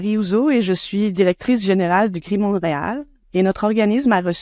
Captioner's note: speaking French